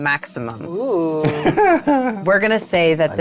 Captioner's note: chuckling